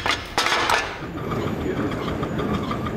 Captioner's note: travel noises